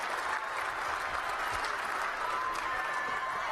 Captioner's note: applause